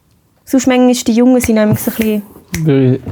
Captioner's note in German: schnippst